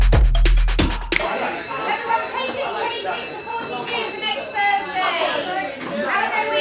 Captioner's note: classroom noises